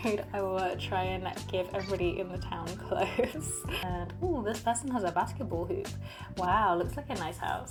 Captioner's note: laughs